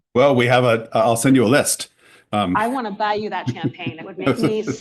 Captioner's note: laughter